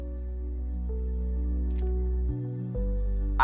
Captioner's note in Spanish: clic de cámara